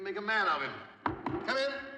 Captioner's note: knocking